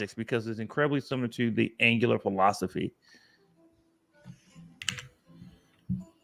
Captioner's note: none